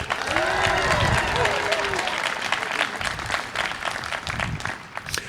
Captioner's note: audience applauding